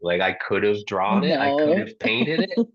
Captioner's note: laughs